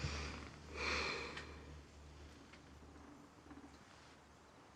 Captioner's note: Tania sighs